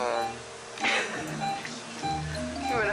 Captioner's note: machinery beeping; audience laughing; whimsical music